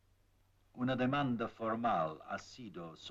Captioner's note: in Spanish